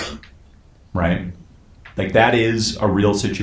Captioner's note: drowned out by a sneeze